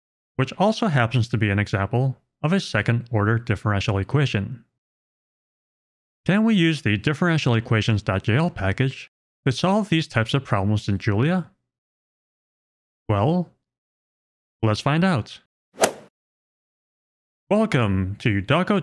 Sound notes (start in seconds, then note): 15.8 golf ball hit sound effect